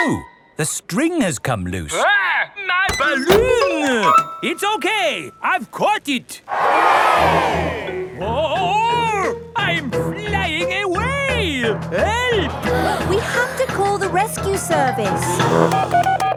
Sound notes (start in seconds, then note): 6.4 crowd cheers; 15.0 beeping